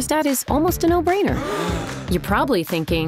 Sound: gasping

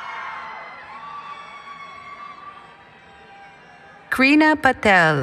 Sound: cheering

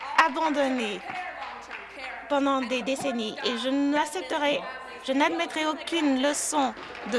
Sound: some Applause

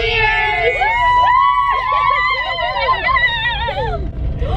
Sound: girls scream

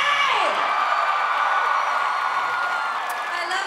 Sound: applause

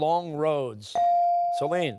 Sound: timer

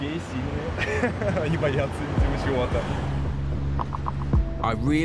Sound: speaking in foreign language

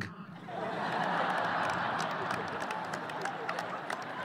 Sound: audience laughing

